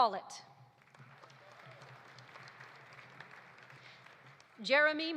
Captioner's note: audience applauding